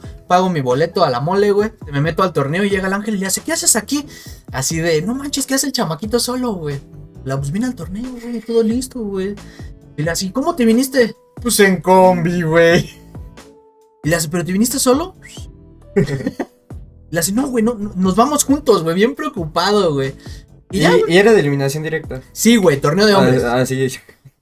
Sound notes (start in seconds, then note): 15.1 whistles in approval